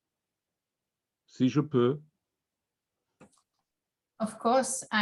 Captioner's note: french